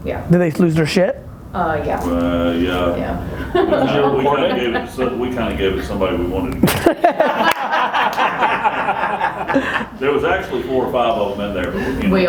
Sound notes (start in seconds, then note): 6.6 laughing